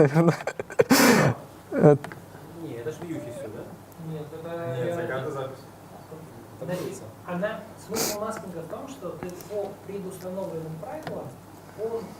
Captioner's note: a discussion in the audience